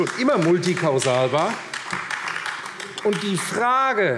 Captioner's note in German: Vereinzelter Beifall AfD